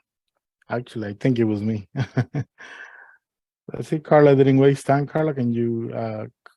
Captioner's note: laughter